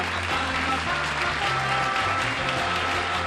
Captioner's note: applause